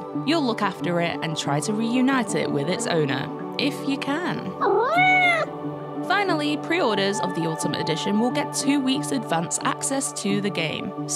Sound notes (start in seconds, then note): 4.6 cat meows